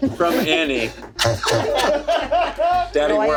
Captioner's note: everyone laughs